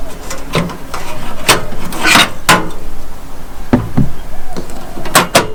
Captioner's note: canister clinks